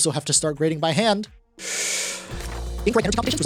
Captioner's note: inhales